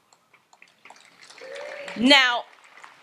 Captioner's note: audience applauds